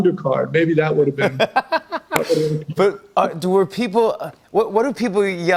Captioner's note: laughing